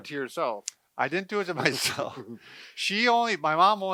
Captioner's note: laughs